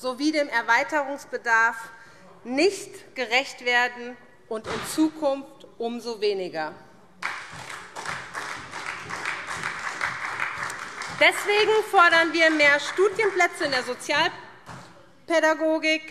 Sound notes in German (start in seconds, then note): 7.2 Beifall SPD